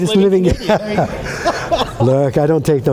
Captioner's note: laughter